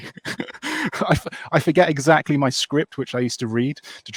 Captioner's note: laughs